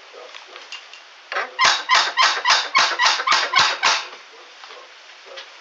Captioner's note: knocker squeaking